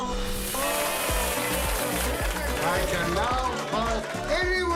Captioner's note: cheering and clapping